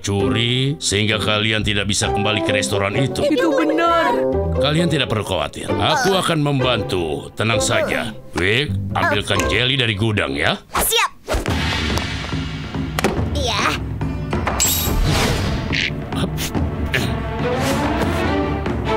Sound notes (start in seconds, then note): 11.5 dramatic music; 15.0 grunting